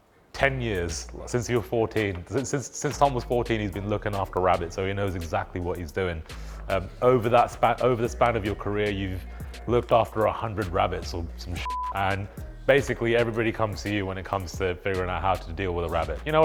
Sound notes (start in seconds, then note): 11.6 screen beeps